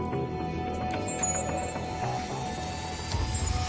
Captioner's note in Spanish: Pitidos